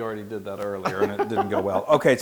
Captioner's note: laugh